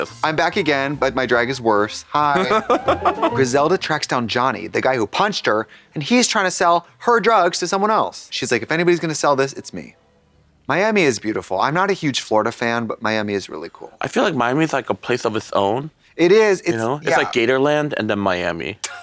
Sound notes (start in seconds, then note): 2.4 Kim snickers; 2.4 bright chime